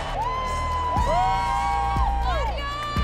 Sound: cheering

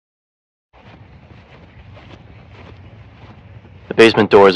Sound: footsteps

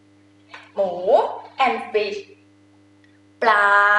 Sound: talking in foreign language

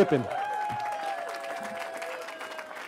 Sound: cheering

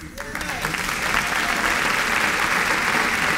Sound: applause

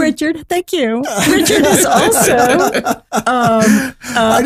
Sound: laughing

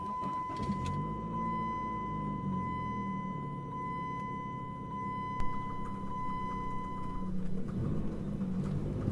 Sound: engine starts; engine idling

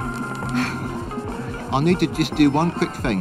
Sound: woman chuckles

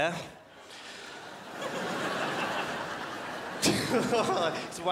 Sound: crowd laughs

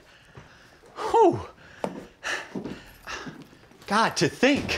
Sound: breathes heavy

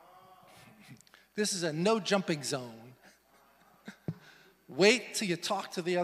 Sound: laughs; laughs

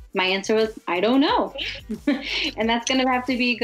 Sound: laughs

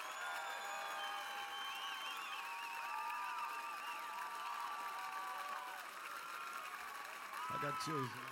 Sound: cheers and applause

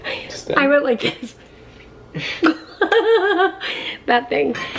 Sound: laughs

